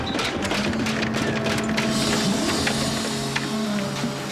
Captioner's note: faint hissing